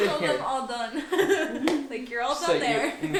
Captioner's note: laughing